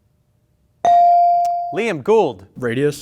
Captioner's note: bell ringing